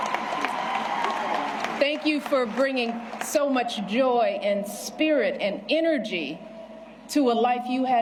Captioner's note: cheers and applause